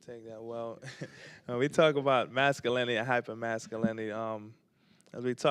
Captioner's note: chuckles